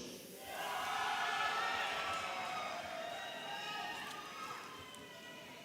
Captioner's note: audience applauding and cheering